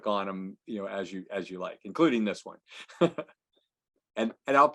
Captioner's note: laughs